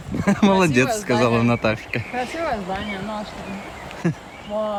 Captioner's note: laughing